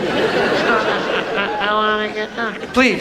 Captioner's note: audience laughs